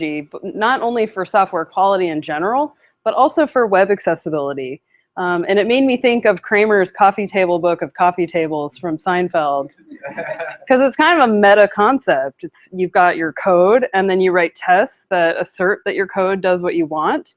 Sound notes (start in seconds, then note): 10.0 laughter